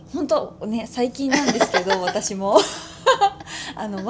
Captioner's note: laughs